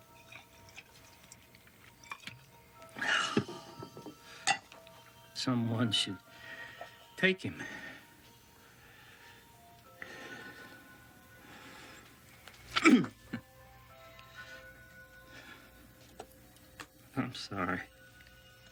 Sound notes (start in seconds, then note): 2.9 sighs; 8.5 vaguely unsettling tinkling tones; 12.8 Roger grunts